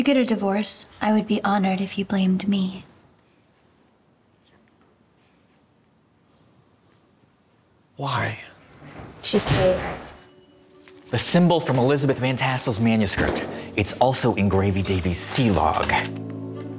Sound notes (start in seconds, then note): none